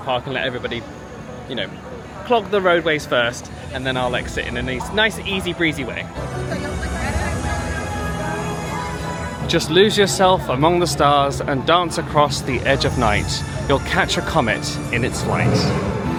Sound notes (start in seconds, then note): 6.4 epic music plays; 6.4 people chatter